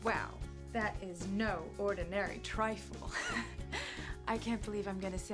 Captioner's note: laughs